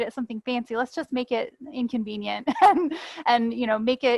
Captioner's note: chuckles